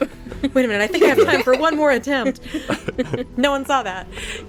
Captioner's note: imitating Kit